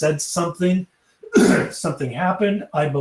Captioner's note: coughs